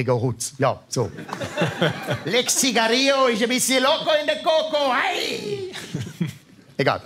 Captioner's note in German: Mit spanischem Akzent